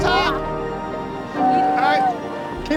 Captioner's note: kids mumbling